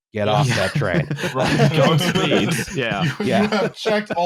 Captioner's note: laughter